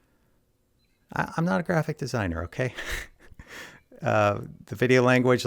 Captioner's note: laughs